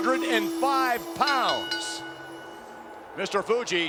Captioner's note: bell rings